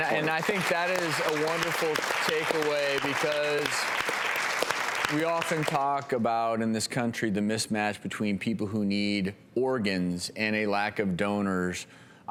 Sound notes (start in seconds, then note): 3.1 audience applause